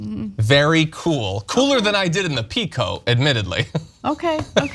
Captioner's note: laugh